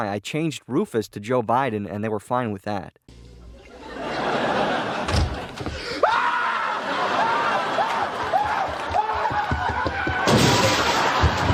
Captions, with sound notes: I changed Rufus to Joe Biden and they were fine with that. [Newman prolonged yelps in shock and fear as laugh track plays]